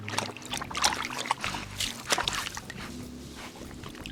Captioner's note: water splashing